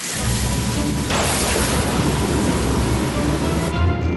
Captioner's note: thunder crashes